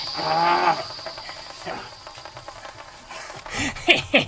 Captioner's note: laughs; monster grunts; scientist laughing